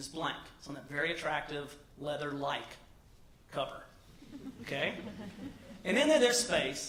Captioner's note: laugh